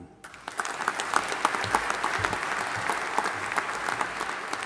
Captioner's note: audience applauding